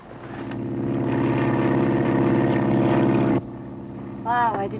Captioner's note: airplane flying